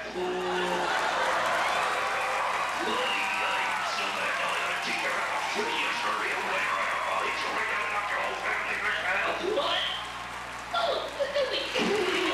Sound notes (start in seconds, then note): 0.0 grunts; 0.8 audience applauds, laughs; 4.4 audience cheers and laughs; 5.9 mumbles through gritted teeth; 11.6 giggles